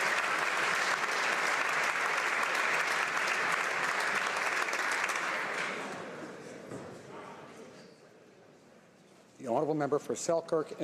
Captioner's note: applause